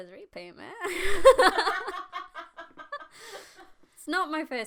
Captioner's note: uprorious laughter from the audience